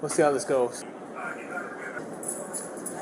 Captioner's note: radio chatter